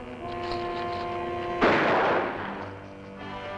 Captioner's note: gunshot